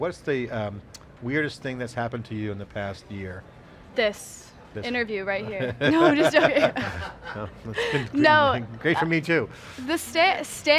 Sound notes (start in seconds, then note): 8.1 laughs